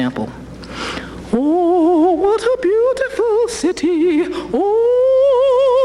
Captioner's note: in dramatic style